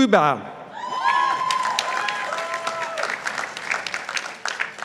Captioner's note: participants applauding